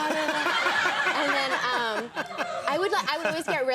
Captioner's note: Conan laughing